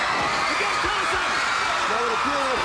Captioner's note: crowd cheering